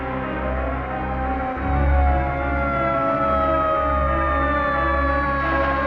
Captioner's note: police siren